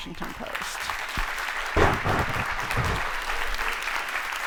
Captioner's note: audience applauds